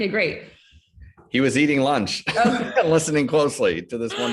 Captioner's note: chuckles